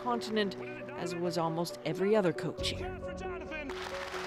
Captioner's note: clapping